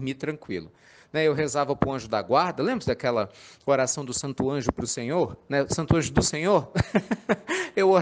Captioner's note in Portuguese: risadas